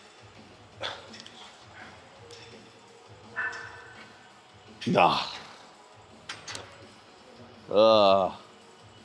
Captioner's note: grunting